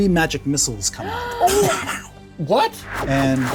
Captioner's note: players gasping